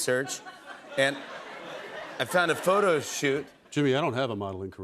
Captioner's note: laughter